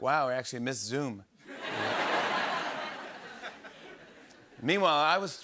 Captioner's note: laughter